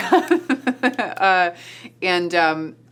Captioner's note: laughs